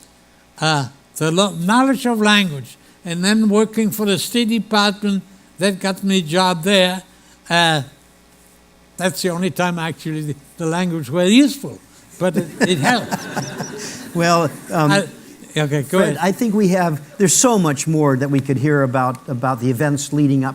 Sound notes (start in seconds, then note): 12.2 laughter